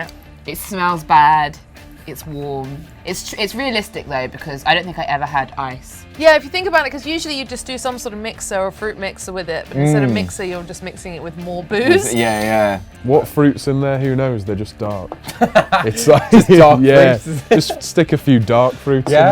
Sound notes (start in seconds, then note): 12.1 laughs; 15.2 laughs